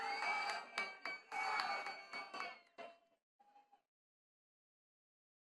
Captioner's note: attendees cheering and clapping